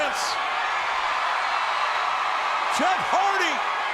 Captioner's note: audience cheering